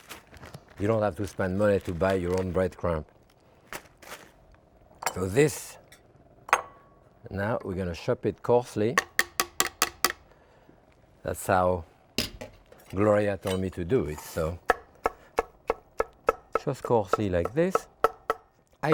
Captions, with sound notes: You don't have to spend money to buy your own breadcrumbs. So this now we're gonna shop it coarsely. (utensil tapping) That's how Gloria told me to do it, so. (knife tapping) Just coarsely like this.